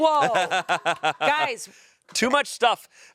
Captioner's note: laughs